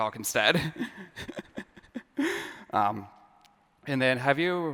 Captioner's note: laughter